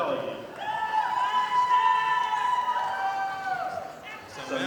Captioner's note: audience applauding